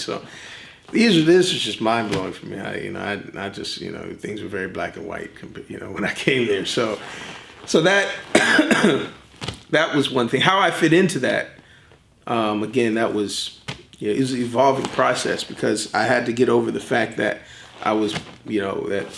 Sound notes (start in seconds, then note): 7.4 laughs; 8.0 coughs